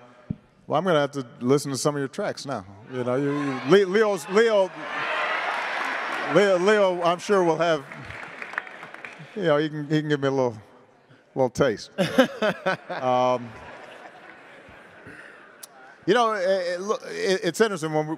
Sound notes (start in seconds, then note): 4.9 attendees applauding